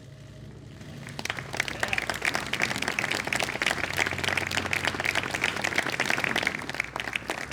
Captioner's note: applause